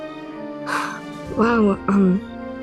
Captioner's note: lucy exhales